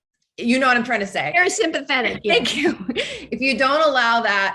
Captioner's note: laughs